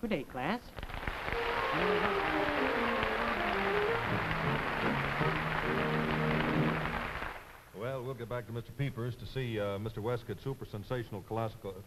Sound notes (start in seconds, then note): 0.8 applause, over music